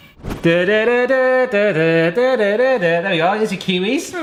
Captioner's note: hums